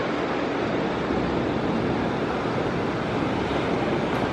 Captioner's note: wind blowing